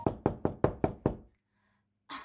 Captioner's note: knocking